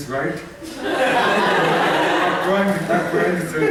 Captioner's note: laughter